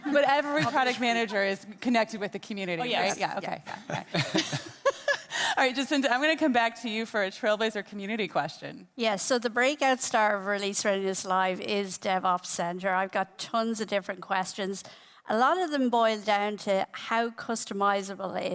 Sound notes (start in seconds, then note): 3.5 group laughing